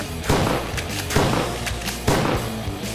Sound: shotgun fires

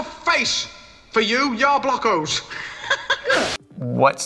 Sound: laughing

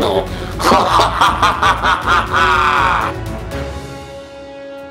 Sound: evil laughter; dramatic music

